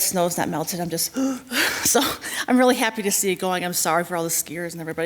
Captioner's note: gasps